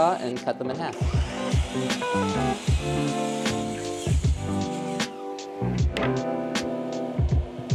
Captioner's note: saw whirling; mellow music